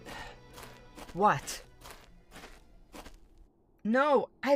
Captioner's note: footsteps return, music ends